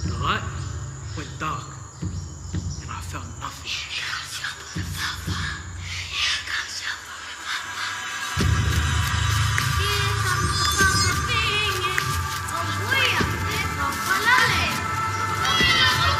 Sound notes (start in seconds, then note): 3.8 children whispering; 9.8 singing